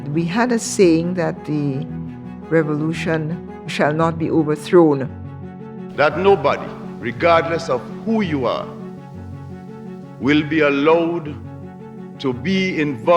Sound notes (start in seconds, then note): 5.9 soundbite of archived recording